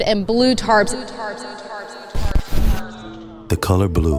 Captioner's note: echoing